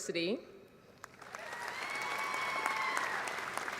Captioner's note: applause